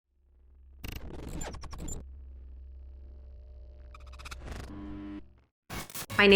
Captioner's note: graphics beeping; graphics screeching